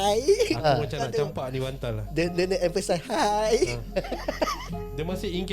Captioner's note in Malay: ketawa; ketawa